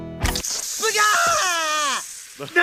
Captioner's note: splash